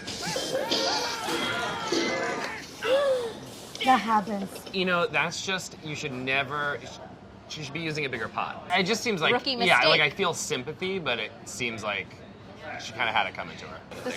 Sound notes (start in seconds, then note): 0.1 pans crashing in movie scene; 2.8 gasps